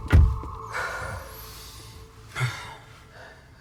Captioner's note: both sighing